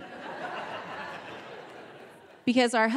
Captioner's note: audience laughing